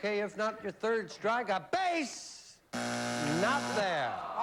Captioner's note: buzzer